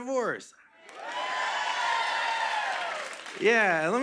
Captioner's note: cheers and applause